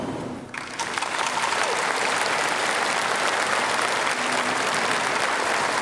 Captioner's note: audience applauds